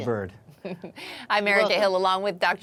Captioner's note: laughing